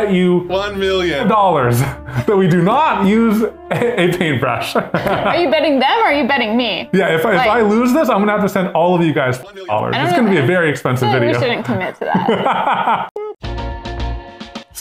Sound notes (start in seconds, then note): 11.0 laughs; 13.3 upbeat music